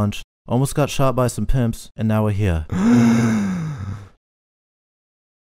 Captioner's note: Uri inhales